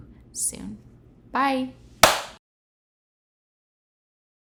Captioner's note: host claps